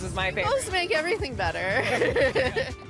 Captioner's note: laughs